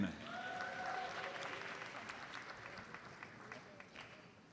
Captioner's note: audience applauds